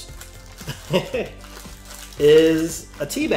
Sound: laughs

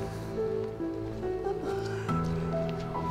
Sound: Vincent whimpering

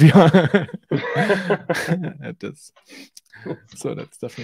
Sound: men laughing

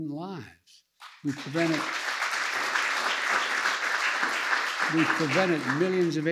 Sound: applause

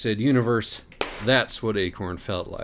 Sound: pop!

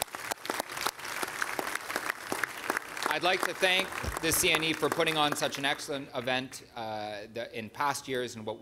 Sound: applause

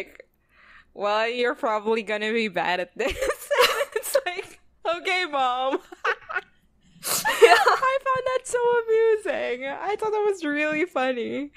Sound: both laugh

